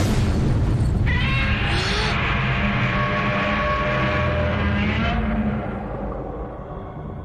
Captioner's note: Godzilla's roar